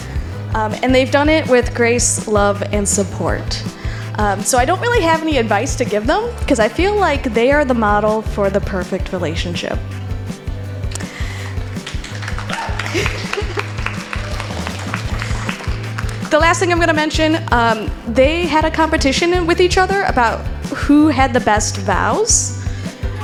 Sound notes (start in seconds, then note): 11.4 clapping